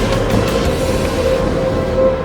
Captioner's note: electronic music playing; smack; electronic music playing